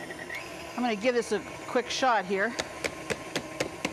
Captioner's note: tapping the mixer